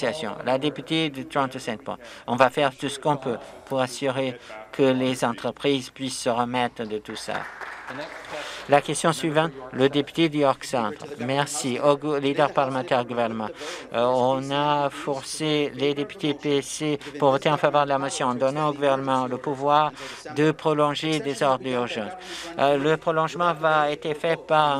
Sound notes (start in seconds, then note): 9.5 some Applause